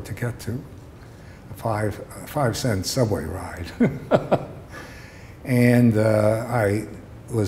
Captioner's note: laughter